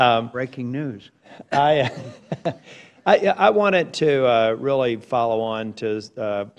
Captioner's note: laughs